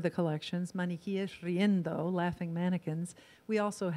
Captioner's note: in foreign language